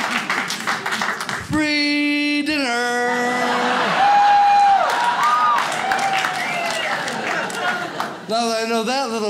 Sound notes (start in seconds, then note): 0.0 audience cheers; 3.2 audience cheers